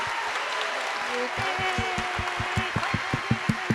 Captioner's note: applause